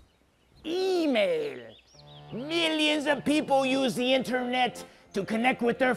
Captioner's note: in spanish